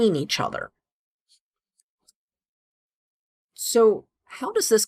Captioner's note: no audio